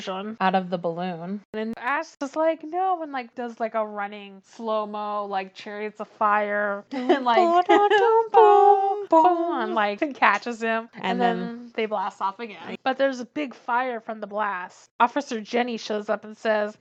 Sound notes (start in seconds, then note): 7.9 hums song